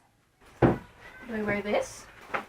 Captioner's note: thud